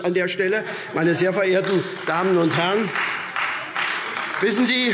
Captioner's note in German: Heiterkeit und Beifall SPD und Freie Demokraten